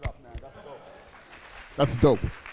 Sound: applause

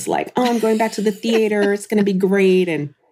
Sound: laughs

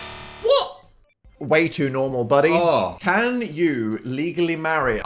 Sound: none

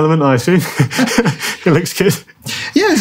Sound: chuckles

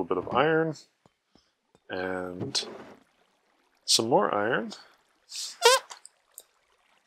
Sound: squeak

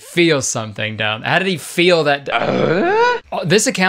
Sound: grunts

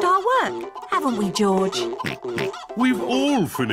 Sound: oinks

